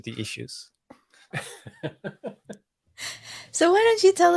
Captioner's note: laughing